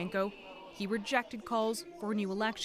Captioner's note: chanting